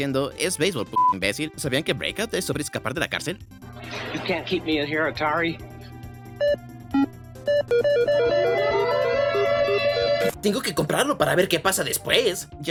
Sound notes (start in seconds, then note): 7.4 alarm blaring; 7.4 console beeping